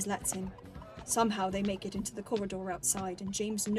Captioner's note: music fades; footsteps